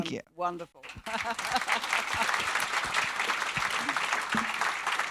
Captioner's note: audience clapping; laughs